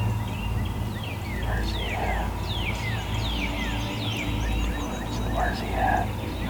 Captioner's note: whispering